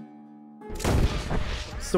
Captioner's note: gunshot